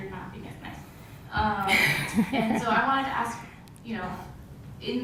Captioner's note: laugh